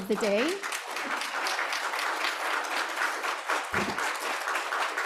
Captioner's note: applause